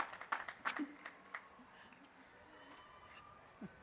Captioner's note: applause